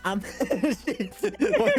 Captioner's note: laughter